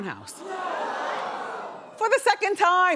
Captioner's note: audience gasps